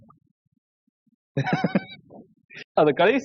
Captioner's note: laughs